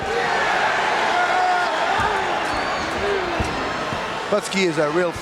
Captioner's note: audience cheering